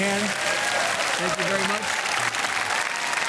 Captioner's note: audience clap and cheer